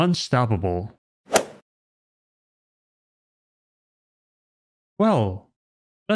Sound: golf ball hit sound effect

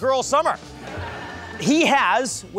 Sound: audience laughs

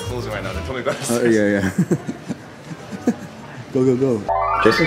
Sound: laughs

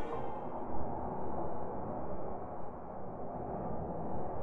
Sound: wind blowing

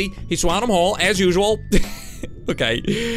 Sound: laughs

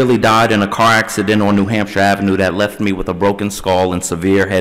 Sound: none

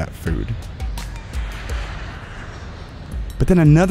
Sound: airplane Noise

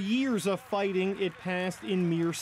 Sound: cheers and Applause

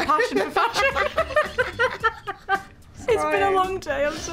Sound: Olivia and Emma laugh

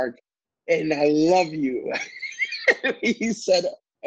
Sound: laughing

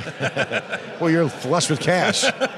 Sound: both laugh

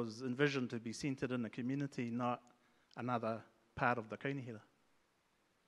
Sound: speaks in Maori

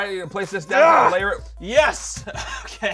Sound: grunting

